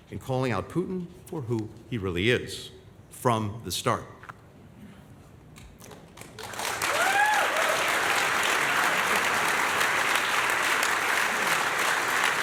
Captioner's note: applause